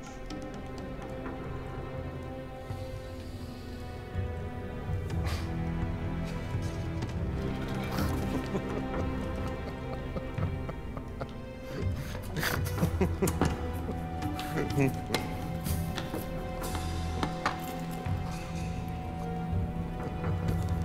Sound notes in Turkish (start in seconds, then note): 0.2 Müzik - Gerilim; 7.9 Vasilius gülme sesi